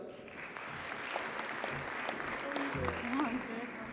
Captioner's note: audience applauds